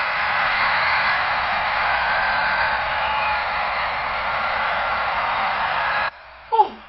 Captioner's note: crowd screams